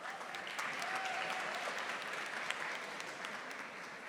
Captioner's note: audience applauding